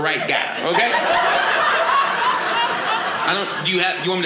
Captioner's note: audience laughing